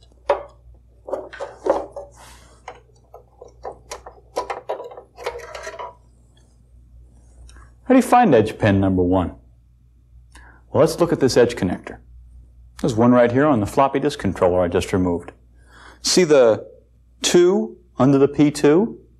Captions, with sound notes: (clunks) (clicking, scraping) How do you find edge pin number one? Well, let's look at this edge connector. There's one right here on the floppy disk controller I just removed. See the "2" under the "P2"?